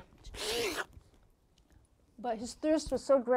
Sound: slurp!

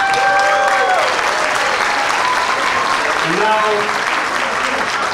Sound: clapping

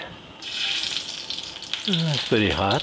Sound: pan sizzles

